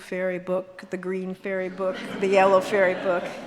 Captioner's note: audience laughs